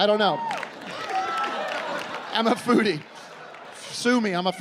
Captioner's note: laughing